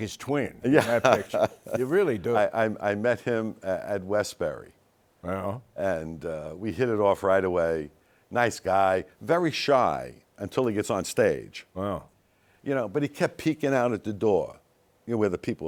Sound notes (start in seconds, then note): 0.7 laughing